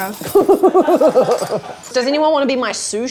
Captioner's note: laughing